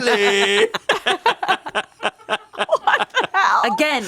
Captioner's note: everyone laughs